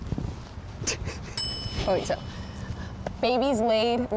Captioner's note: bell tings